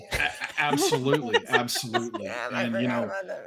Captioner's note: all chuckling